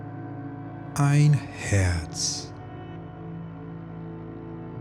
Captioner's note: german